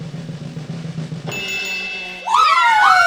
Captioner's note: bells chiming